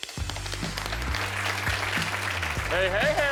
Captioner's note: audience claps